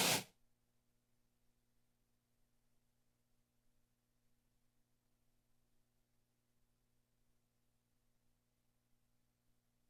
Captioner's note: silence